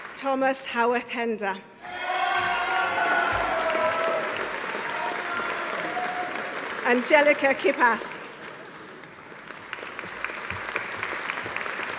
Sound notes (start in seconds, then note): 1.8 audience cheering; 1.9 audience applauding